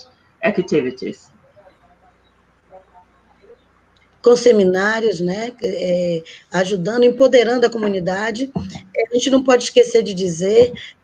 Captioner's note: speaking Portuguese